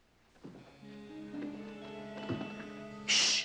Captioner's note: wood creaking